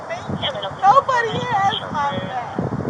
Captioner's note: radio chatter